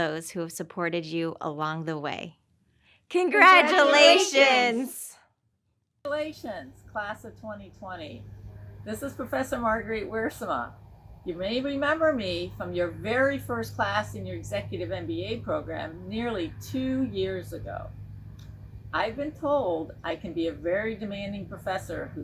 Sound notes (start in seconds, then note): 3.2 crowd